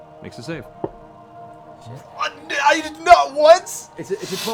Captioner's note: sputters